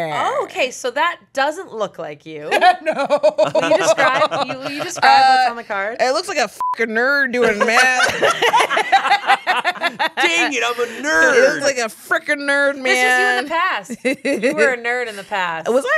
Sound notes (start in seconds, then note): 2.5 laughs; 6.6 beep; 7.4 everyone laughs